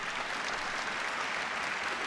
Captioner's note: applause